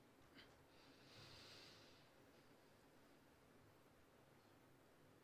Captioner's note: performer inhaling